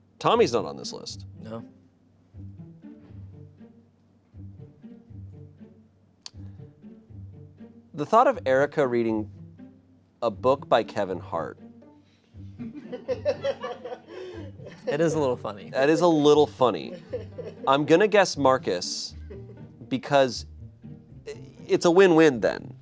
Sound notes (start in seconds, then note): 3.3 soft pensive music; 12.6 audience members laughing